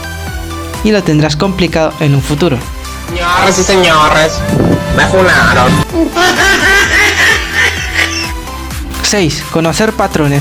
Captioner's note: mujajajajajaja